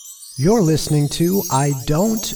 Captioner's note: chimes